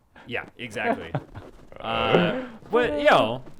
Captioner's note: laughs